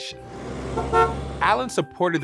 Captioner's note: bus honking